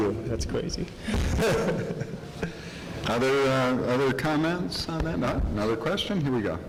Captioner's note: light laughter